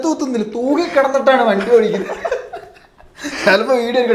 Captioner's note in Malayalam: പൊട്ടിച്ചിരി